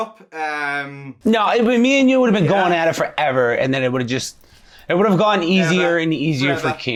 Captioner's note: all laughing